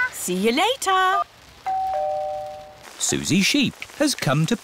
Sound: doorbell rings

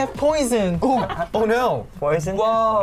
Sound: laughs

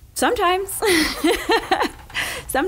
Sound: laughing

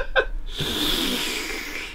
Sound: laughs; slurps loudly

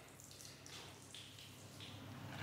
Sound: quiet splashing

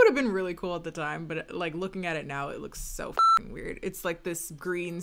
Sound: beep

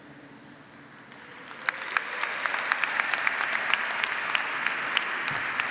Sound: audience applauding

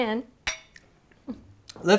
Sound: clink

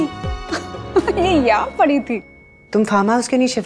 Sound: Poonam chuckles

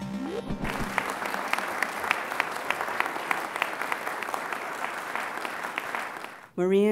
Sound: applause

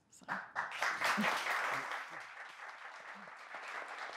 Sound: audience applauds

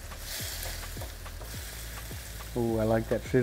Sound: pan sizzling

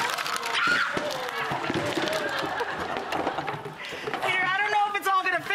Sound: audience gasps and screams

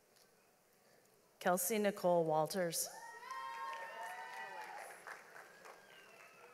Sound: audience applauds

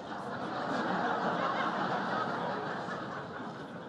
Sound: laughter

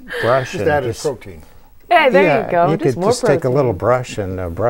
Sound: laughing

